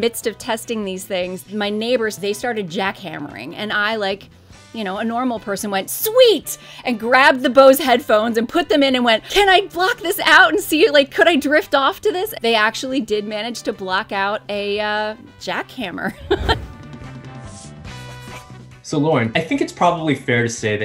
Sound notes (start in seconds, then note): 16.1 laughs; 17.0 uplifting music